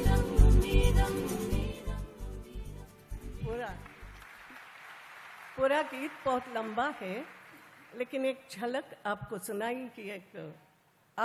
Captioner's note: applause